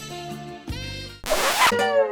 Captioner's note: record scratch